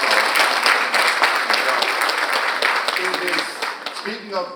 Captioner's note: audience applauding